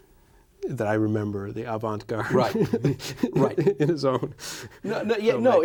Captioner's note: laughs